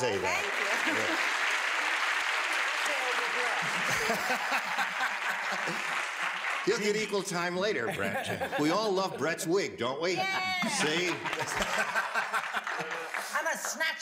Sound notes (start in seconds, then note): 0.0 audience applause; 3.6 laughs; 10.2 laughs; 10.2 cheers and applause